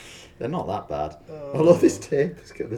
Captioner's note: laughing